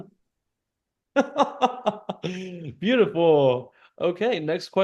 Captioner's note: laughs